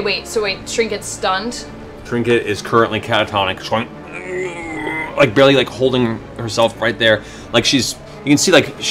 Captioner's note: moans